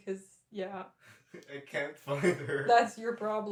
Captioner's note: laughing